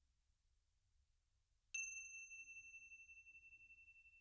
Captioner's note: bells ringing